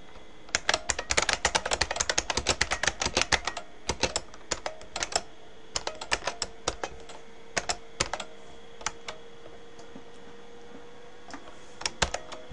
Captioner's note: typing